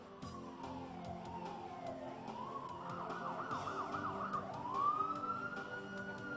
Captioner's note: ambulance siren